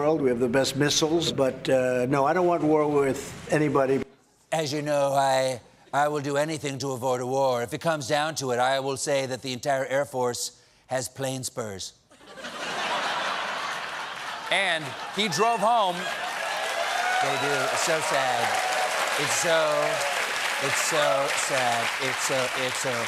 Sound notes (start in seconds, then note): 12.1 laughter; 13.8 cheers and applause